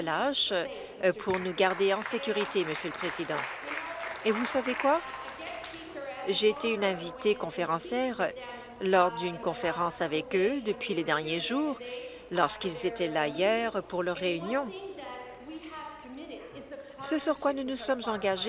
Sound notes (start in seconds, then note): 4.9 applause